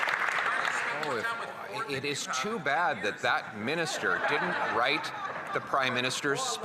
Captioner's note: some Applause